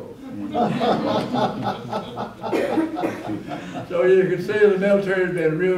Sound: laughter

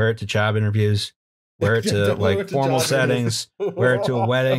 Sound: laughter

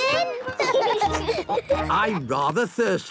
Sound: laughing

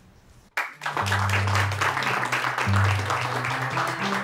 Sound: audience applauding

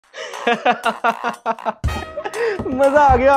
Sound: laughing

